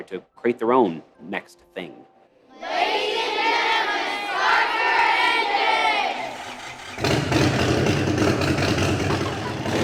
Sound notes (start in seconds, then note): 2.6 students chattering; 6.2 engine revving